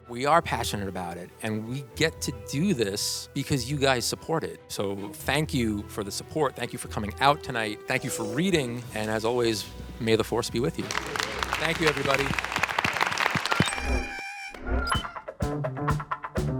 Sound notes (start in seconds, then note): 10.7 applause; 13.3 creature screaming